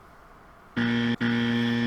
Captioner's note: wrong answer sound